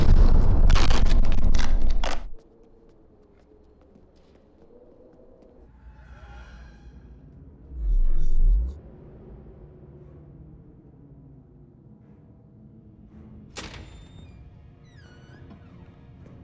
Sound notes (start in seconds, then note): 0.4 tape ripping; 3.5 wind whistling; 13.7 creaks; 13.7 door clatters